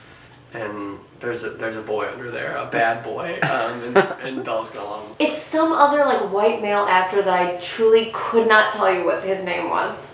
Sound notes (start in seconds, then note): 3.2 laughing off-camera